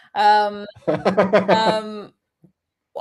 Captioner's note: laughs